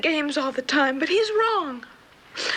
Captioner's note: loud gasp